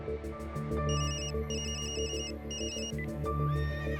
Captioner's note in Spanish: suena el celular